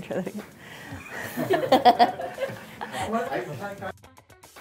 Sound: laugh

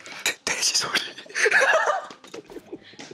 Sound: dying in laughter

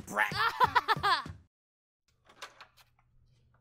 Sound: laughs

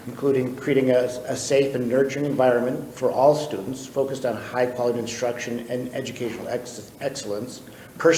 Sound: none

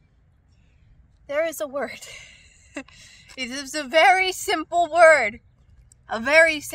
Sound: laughs

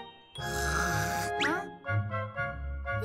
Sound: imitates snore

